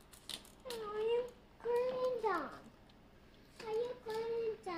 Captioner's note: son babbling